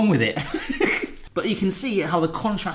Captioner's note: laughing